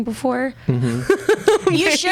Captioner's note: laughs